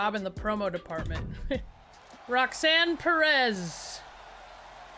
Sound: laugh; applause

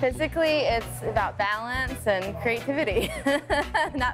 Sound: laughs

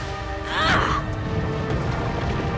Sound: roaring

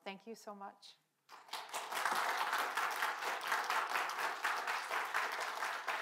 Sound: audience members clapping

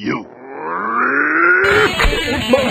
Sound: growls

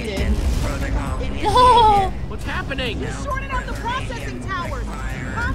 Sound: Sabrina giggles

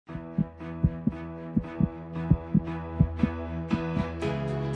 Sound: heart beating; upbeat instrumental music

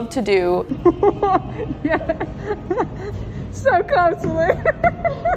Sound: laughs

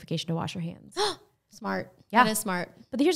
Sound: gasps

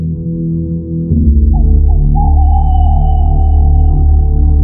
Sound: low humming; bird's cry; low humming

